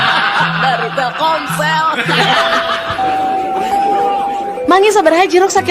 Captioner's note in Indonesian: tertawa